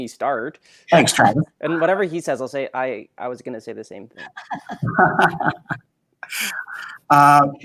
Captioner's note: laughs